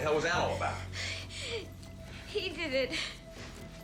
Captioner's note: sobbing